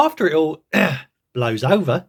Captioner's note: ahem